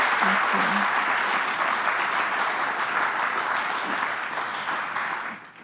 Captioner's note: applause